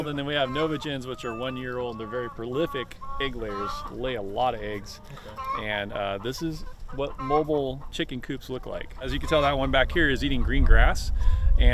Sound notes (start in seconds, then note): 4.9 chickens clucking